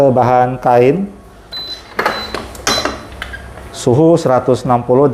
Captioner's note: press machine noise; beeping sound